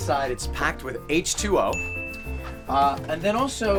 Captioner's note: ding